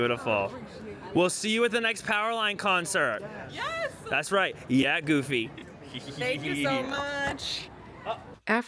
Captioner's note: laughs